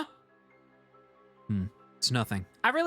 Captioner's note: NPC Voice